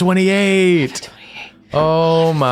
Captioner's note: whispering